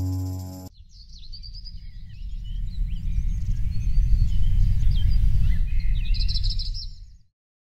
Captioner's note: birds chirping